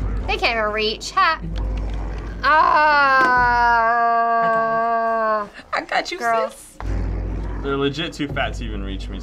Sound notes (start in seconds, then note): 2.2 groaning